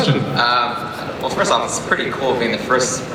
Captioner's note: voiceover